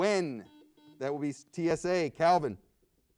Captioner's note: buzzer beeps